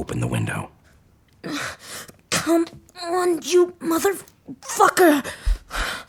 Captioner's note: quietly